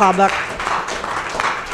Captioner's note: applause